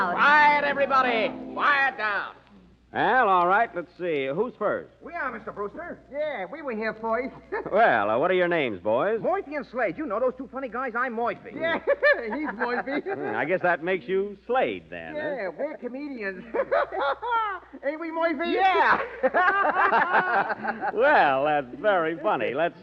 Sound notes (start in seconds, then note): 16.3 laughter